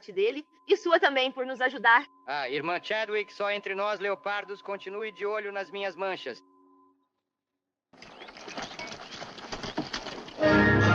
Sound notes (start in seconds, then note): 7.9 horse clopping